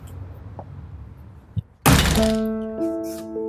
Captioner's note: door crashes; metal cranking; gentle piano music